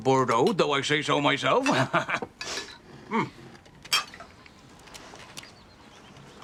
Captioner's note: chuckles